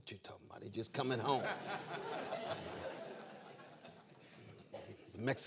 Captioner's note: laughter